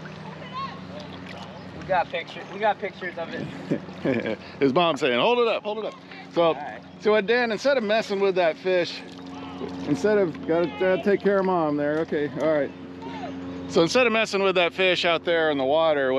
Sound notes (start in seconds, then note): 0.0 splashing; 1.6 shouting in background; 3.2 chuckling